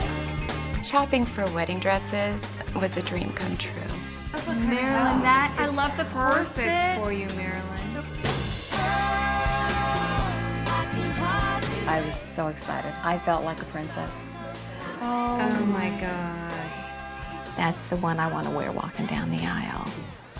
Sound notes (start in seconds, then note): none